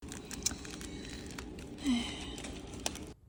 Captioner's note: big Sigh 2